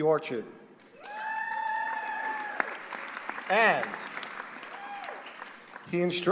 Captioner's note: applause